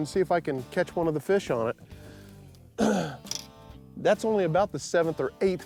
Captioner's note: clears throat